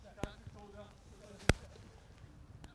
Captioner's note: players chatting